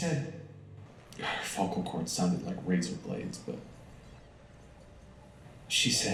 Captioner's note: sigh